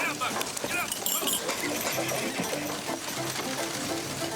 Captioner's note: men chattering